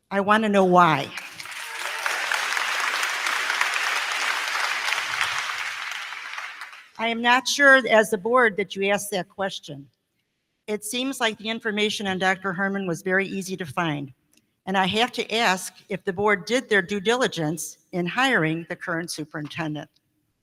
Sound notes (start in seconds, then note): 1.0 crowd clapping; 1.1 crowd cheering